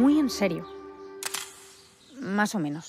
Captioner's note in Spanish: Disparo cámara